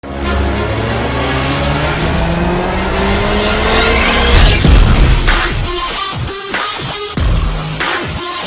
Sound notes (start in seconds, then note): 0.0 car engine revs; 4.7 upbeat techno music